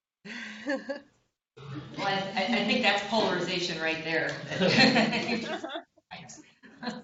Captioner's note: laughter